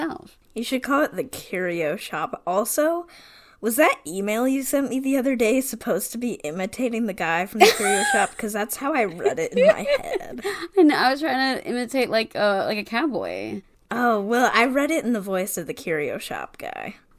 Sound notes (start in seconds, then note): 9.2 laughing